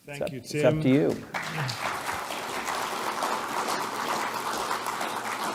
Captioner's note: applause